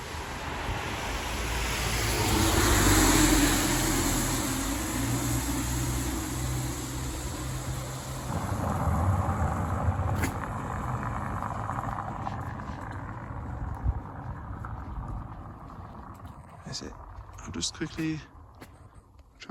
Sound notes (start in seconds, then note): 0.1 car passing; 8.1 car cobblestone rumbling, fading away